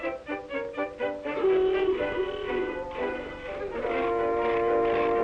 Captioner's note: car horns blaring